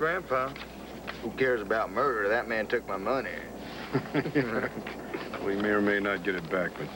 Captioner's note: imitating asa